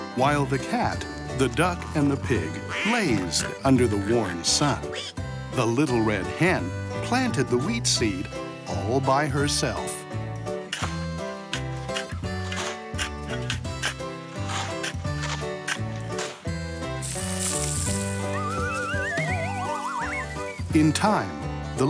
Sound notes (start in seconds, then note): 0.0 happy banjo music; 11.2 digging